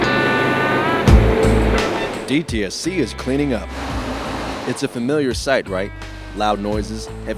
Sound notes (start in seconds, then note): 1.1 sounds of Excavator; 3.8 sounds of machinery at clean up site